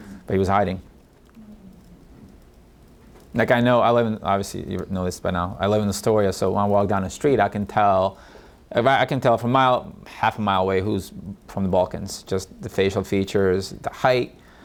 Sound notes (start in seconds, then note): none